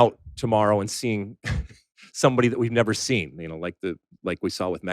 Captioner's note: laughs